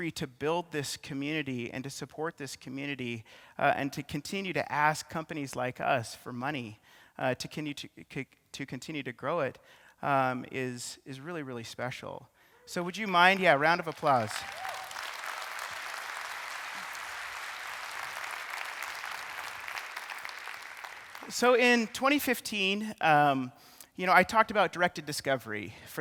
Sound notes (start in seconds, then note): 14.6 audience clapping